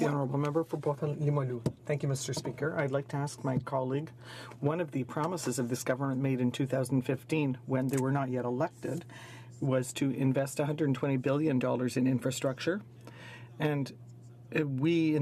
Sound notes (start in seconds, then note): 2.5 speaking french